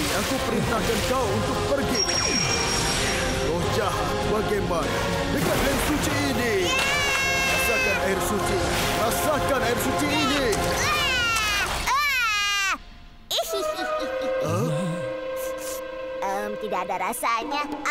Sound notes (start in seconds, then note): 6.7 screaming; 10.7 screaming; 13.4 laughing